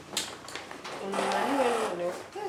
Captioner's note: Grincement d'une porte